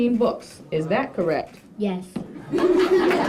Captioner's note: crowd giggles